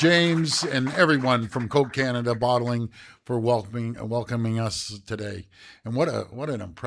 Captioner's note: applause